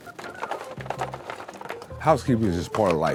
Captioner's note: items clatter